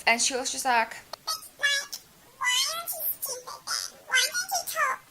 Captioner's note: in silly voice